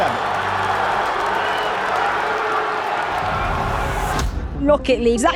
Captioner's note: crowd cheering